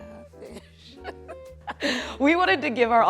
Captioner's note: laughs